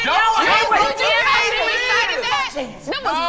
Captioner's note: group arguing